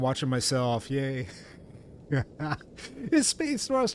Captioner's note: laughs